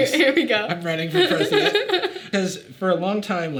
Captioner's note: Sadie laughing